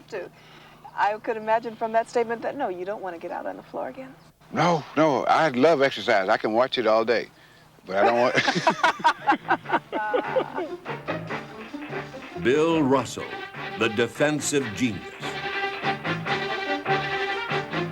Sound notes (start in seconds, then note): 8.0 laughing; 8.0 laughs; 14.8 energetic music